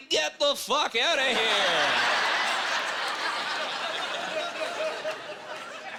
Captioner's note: laughing